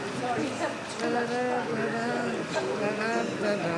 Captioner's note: humming